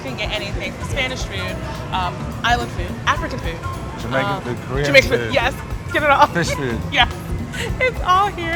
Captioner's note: laughs